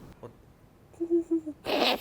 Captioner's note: tries to mimic a pigeon; laughs